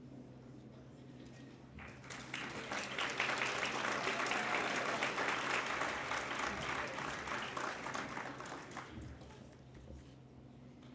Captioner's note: applause